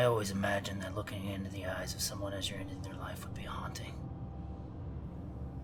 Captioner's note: none